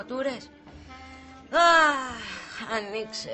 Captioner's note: stella sighs